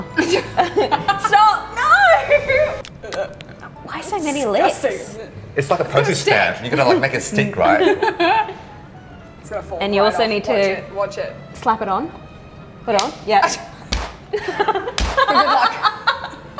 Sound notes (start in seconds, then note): 0.1 laughing; 7.6 laughing; 15.1 laughing